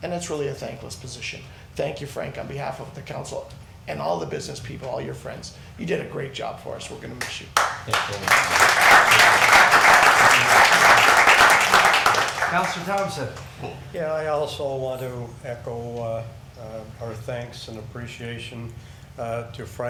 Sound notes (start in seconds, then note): 7.5 crowd clapping